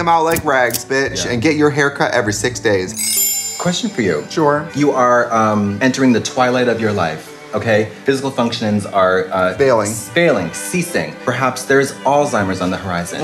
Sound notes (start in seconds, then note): 2.9 chimes; 3.0 beep